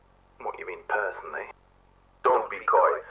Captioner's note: sarcastically